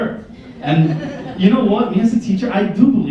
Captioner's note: laughter